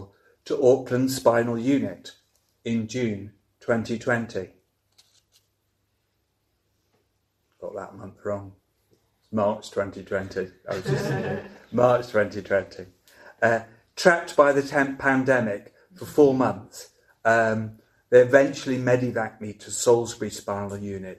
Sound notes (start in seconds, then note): 10.7 audience laughing